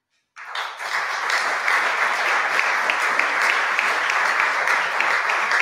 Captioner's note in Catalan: aplaudiments